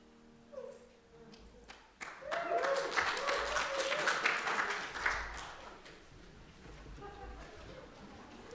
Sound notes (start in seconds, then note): 2.0 cheers and applause; 6.8 conversational chatter